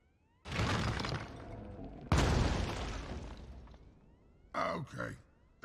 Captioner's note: rock thudding